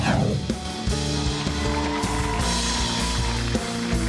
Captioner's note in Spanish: Ovación